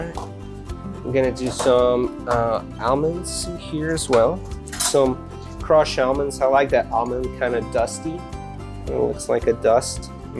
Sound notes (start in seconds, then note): none